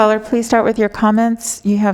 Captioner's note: phone ringing